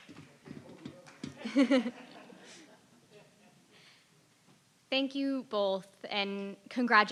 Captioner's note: laugh